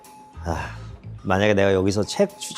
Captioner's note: sigh